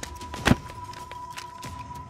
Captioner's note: Thud on ground